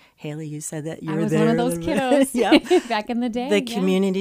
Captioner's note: laughs